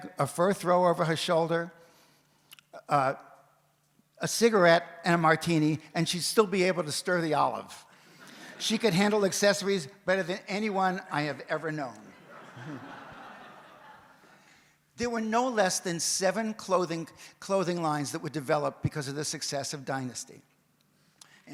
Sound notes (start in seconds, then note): 8.2 audience laughs; 12.1 audience laughs